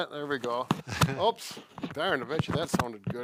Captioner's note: laughs